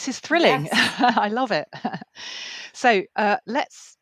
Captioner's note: laughing